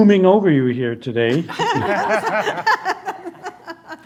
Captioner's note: laughter